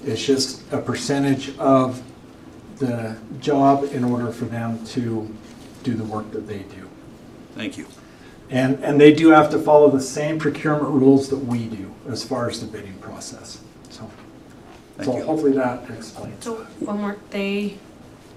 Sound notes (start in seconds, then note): none